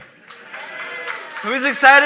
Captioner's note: audience applauding